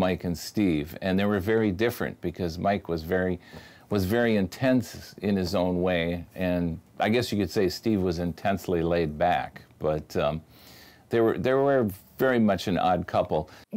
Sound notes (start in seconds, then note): none